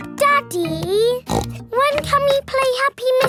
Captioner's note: snorts